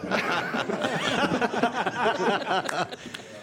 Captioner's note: laughter